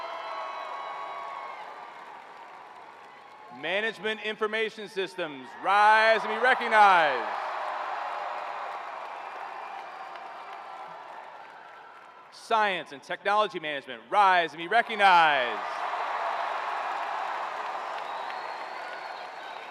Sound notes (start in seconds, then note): 0.0 cheering; 5.0 cheering